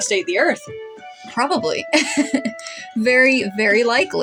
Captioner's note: laugh